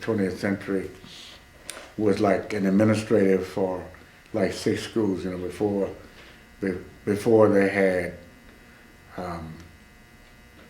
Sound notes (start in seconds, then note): none